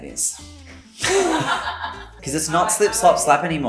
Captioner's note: woman laughs